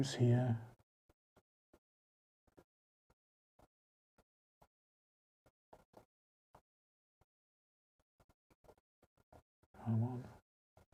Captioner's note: silence